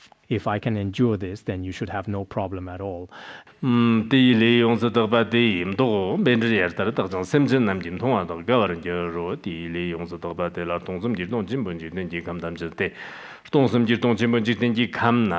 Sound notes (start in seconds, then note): 3.4 giving oral transmission in Tibetan